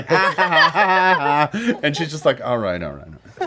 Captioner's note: laughs mockingly